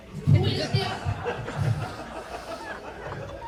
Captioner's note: all laugh